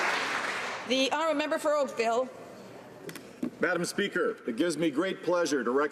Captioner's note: applause